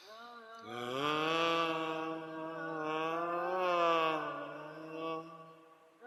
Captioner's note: humming